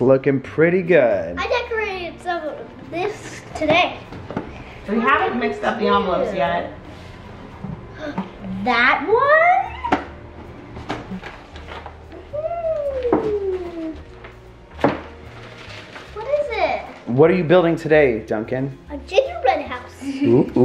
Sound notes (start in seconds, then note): 8.5 gasps